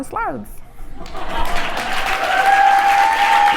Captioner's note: cheers and applause from audience